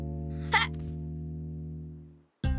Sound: sighs

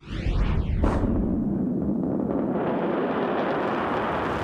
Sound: explosion

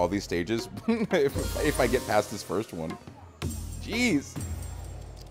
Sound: laugh

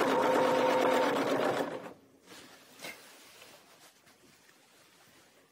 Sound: sewing machine whirring

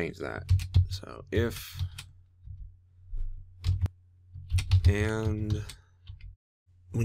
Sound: typing

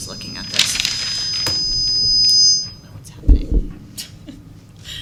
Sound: feedback

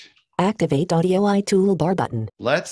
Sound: automated Voice

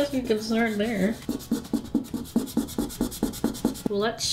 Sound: eraser rubbing on paper

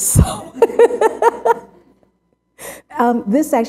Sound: laughter

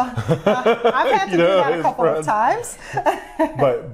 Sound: laughs

